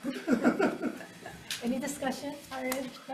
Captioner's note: committee laughing